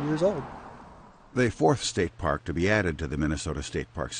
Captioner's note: voiceover